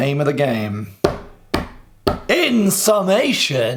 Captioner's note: table banging